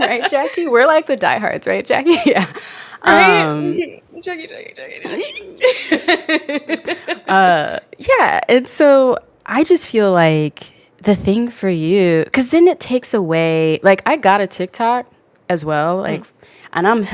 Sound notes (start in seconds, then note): 5.0 laughs